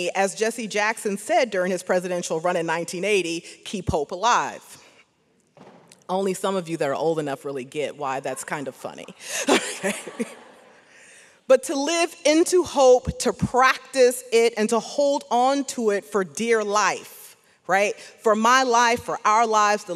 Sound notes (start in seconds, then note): 9.4 audience laughs